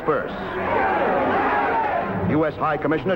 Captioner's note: shouting crowds